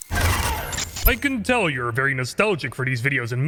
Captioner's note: mysterious interference